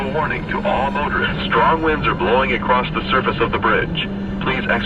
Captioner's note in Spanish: radio